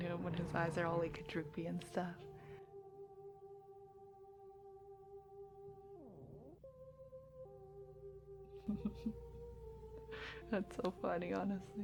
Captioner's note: laughs